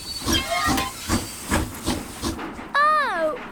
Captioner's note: train chugs